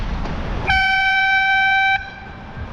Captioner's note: airhorn